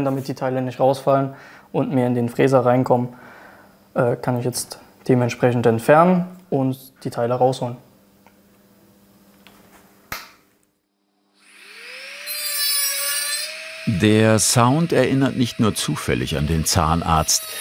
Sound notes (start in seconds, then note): 11.5 pungent grinding noise